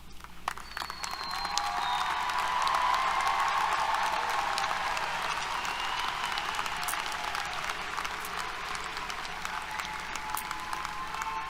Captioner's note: applause, Cheers